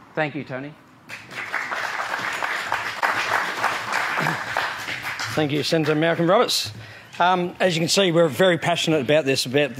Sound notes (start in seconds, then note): 1.1 audience applauds